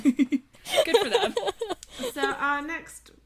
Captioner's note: laughter